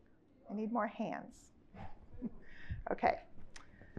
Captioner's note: chuckles